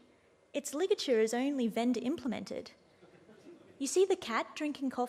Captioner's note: audience laughs